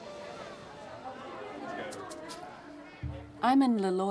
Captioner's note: children's voices